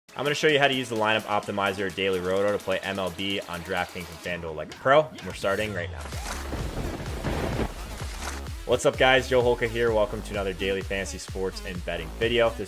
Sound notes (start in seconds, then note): 5.0 techno music; 6.5 lightning strike